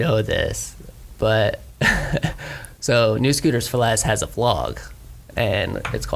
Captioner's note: laughs